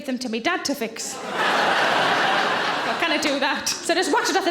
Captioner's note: audience laughing